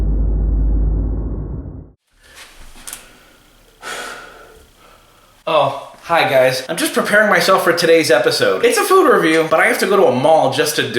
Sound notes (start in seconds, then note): 3.8 sighs